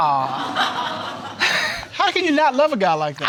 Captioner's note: audience laughing